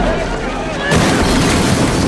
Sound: glass shattering

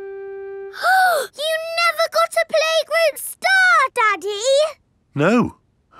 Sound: gasps

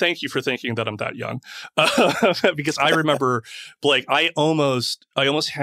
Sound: laughs

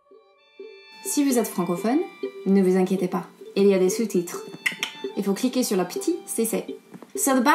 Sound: speaking French

